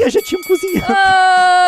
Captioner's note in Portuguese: trriiiiim